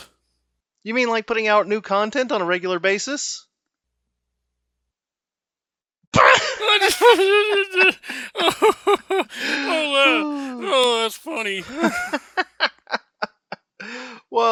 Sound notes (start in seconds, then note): 6.5 both laughing; 12.3 laughing